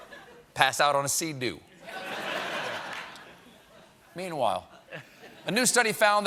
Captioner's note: laughter